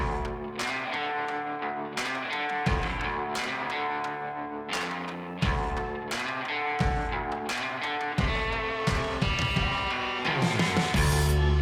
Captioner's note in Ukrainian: оплески